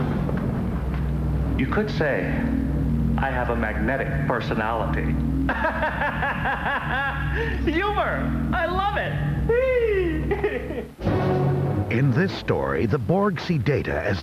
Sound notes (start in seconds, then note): 5.4 laughs